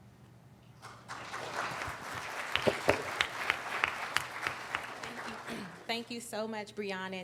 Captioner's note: applauding